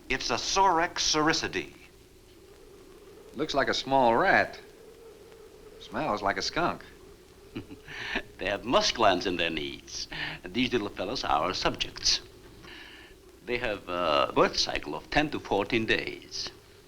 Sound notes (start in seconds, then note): 7.4 chuckles